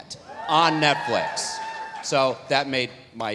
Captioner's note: audience cheering